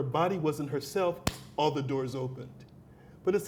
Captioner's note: clapped hands